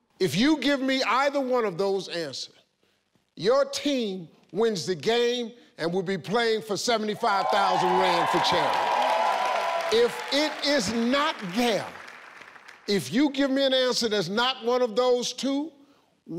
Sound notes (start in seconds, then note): 7.2 audience cheering